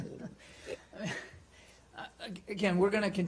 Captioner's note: laughter